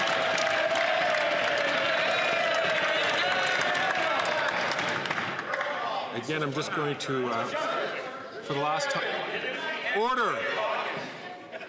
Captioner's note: some Applause